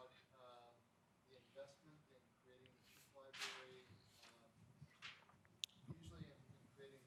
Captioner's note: speaks faintly